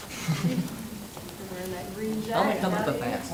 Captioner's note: crowd talking indistinctly